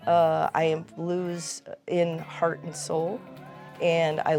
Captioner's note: audience cheering